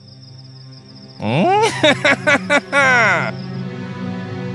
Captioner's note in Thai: หัวเราะ